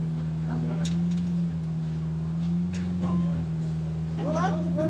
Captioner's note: engine revving